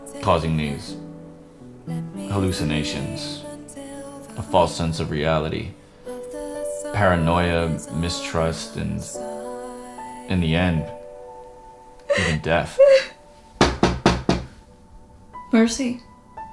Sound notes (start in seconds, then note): 13.6 knock